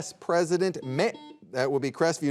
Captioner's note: buzzer beeping